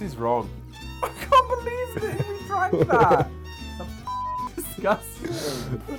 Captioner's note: beep